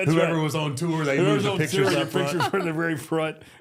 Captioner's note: overlapping chatter